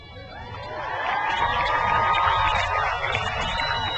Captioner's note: crowd cheers